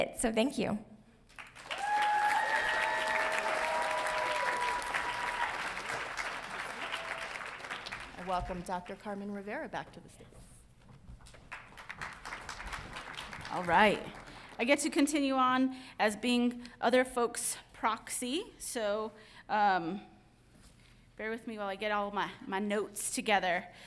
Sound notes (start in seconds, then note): 1.6 audience cheering; 11.4 audience applauding